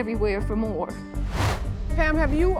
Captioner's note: whooshing